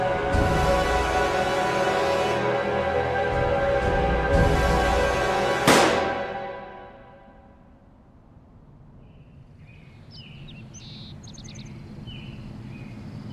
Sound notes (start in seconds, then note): 4.1 tense music continues; 5.6 gunshot blasting; 9.5 birds chirping